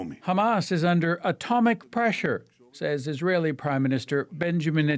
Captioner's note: speaking Alternate Language